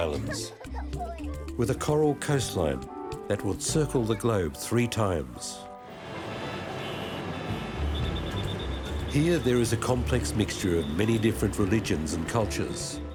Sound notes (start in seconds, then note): 6.0 cars beeping; 7.9 police whistle blowing